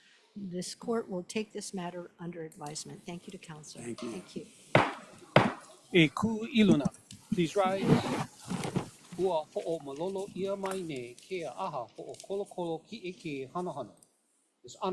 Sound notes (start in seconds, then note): 4.8 gavel bangs twice